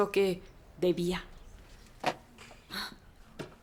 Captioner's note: sighs